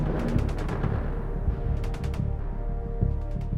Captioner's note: shots firing